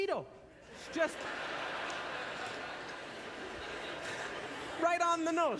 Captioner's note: audience laughter